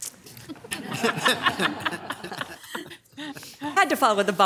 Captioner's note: audience laughing